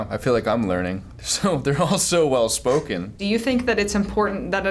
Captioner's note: laughs